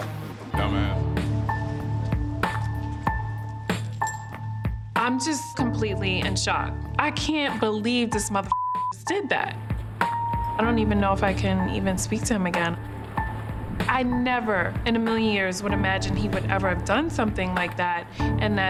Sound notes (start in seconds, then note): 1.7 tense music plays; 8.4 beep